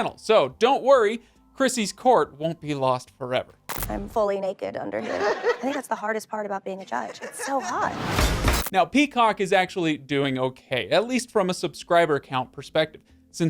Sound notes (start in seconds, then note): 5.0 crowd laughs; 7.9 intense beats